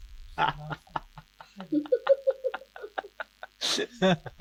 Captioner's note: Phil laughs